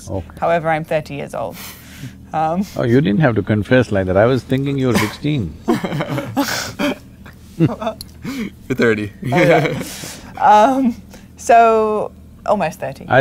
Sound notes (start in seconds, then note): 9.1 interviewers laugh; 9.2 laughs